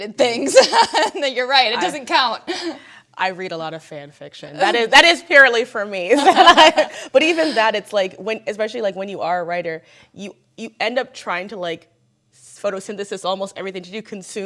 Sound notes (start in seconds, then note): 0.2 laughs; 6.2 panelists laughing